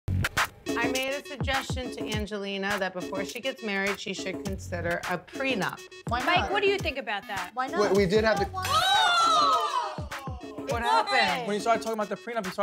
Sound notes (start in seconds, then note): 0.0 upbeat music; 9.1 yelling